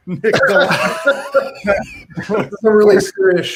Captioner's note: laughs